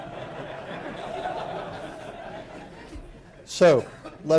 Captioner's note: laughter